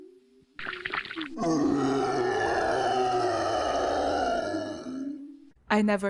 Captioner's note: roar